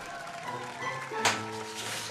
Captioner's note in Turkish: El Çırpma Sesi